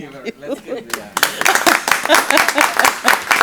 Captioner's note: applause